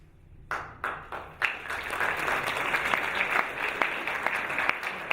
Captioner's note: audience applauding